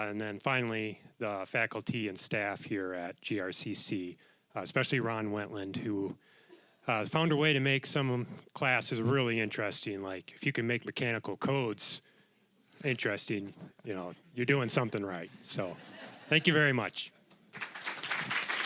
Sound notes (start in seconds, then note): 15.3 audience laughing; 17.5 applause